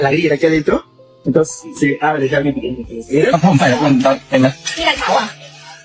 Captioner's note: spanish dialogue continues